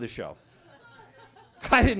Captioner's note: attendees laughing